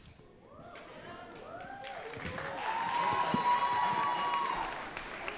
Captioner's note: audience cheering and clapping